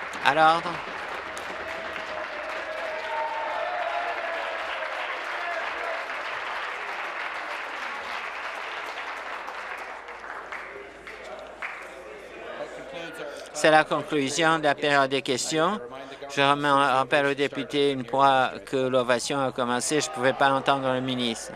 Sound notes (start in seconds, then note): 0.0 applause; 7.9 applause and cheering